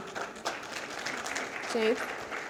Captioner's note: audience applauds